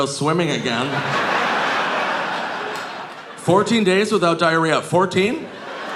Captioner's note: audience laughing